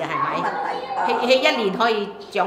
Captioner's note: Cantonese